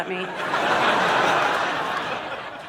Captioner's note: audience laughing